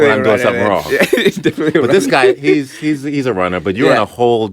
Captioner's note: laughter; still laughing